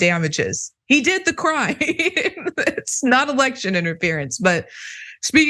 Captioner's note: laugh